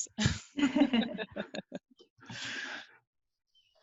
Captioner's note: laughing